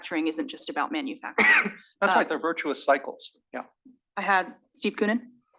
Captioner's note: cough